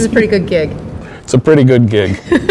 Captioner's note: chuckles